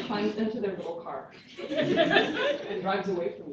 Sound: laughter

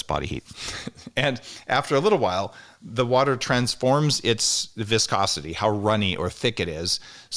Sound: chuckles

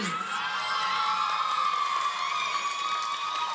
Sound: cheering

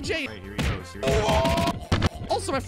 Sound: screaming.mp3

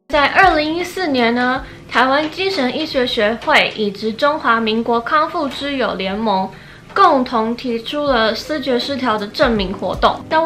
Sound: in Mandarin Chinese

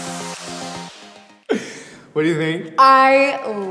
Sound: laughs

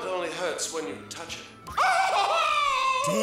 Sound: screaming

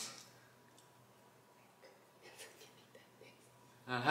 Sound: whispering

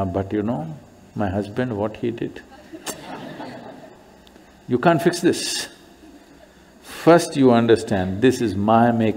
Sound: laughter

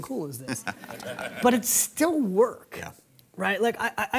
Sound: laughs

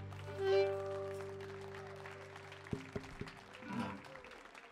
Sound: audience applauding

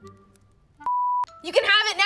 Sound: beep

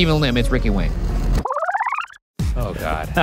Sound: film rewinding

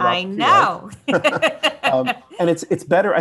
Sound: both laugh

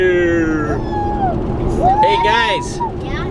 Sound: kids cheering

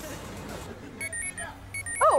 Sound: chiming

